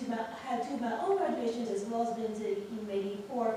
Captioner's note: none